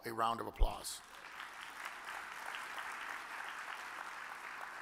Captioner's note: audience claps